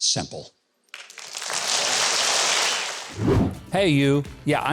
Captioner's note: audience applauds